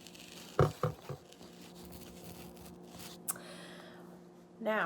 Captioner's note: plate clattering